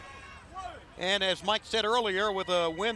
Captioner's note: crowd chatter